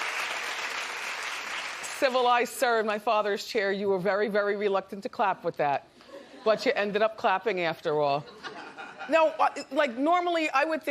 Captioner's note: applause